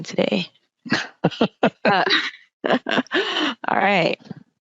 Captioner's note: laughing